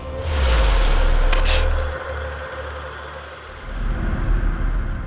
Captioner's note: film reel clicking